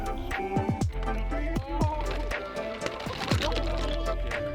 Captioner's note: SPECTATORS: Woooah!